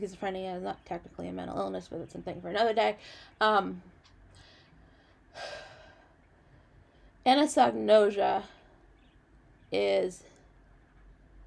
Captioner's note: sighs